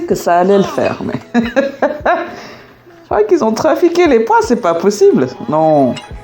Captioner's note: laughs